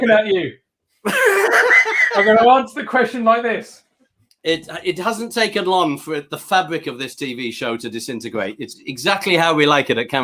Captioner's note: laughs